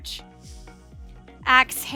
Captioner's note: breathing heavily